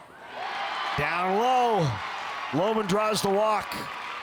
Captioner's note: crowd cheers